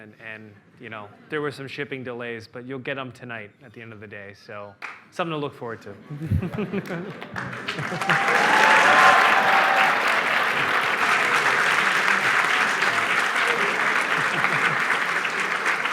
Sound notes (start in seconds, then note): 6.8 applause